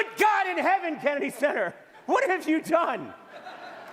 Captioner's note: laughter